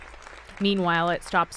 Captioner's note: cheering